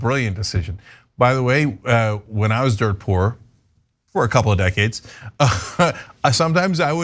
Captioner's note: laugh